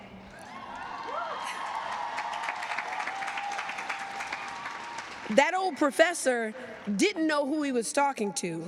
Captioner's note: cheers and applause